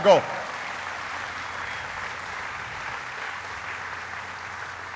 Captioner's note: applauding